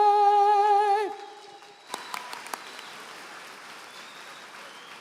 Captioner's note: applause